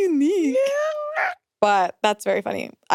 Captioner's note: screeches